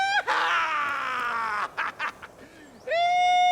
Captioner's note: laughter